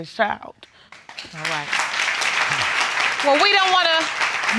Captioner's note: applause